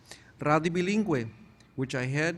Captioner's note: none